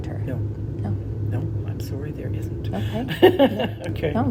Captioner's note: laughing